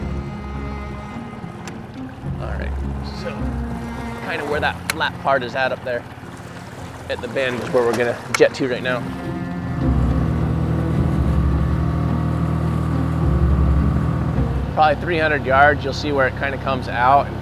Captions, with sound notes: All right, so kind of where that flat part is at up there, at the bend, is where we're gonna jet to right now. (pensive music continues) (boat engine droning) Probably 300 yards, you'll see where it kind of comes out